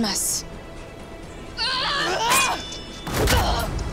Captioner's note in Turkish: Kılıç sesi; Bağrışma